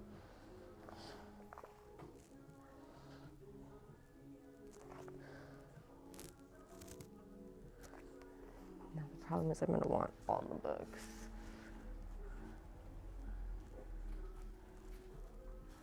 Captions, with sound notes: (pages flicking) Now the problem is I'm gonna want all the books.